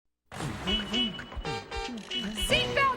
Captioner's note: horn honks